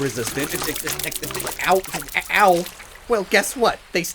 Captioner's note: repeated splashing and slapping noises